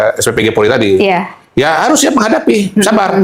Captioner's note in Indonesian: tertawa